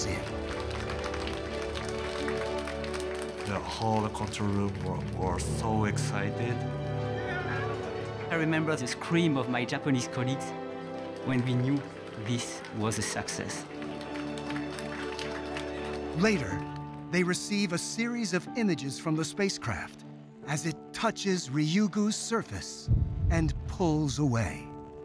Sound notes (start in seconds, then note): 0.0 applause; 7.1 cheers